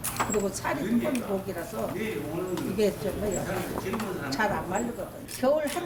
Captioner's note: sound of cutting dried anglerfish with a sickle